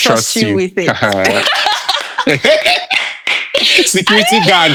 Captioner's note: laughing